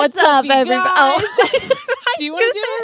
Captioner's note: both laughing